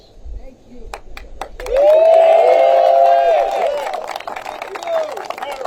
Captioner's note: applause